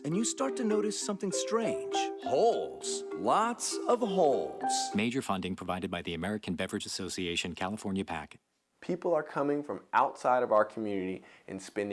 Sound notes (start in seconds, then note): 5.6 voiceover